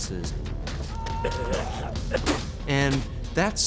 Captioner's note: vomiting